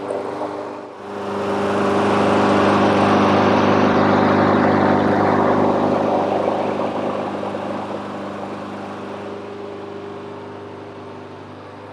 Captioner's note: engine running